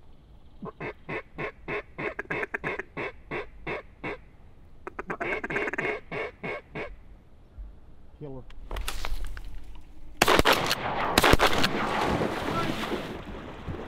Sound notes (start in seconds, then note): 0.6 duck calling; 10.2 gunshots